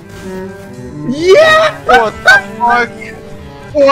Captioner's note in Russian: Победный крик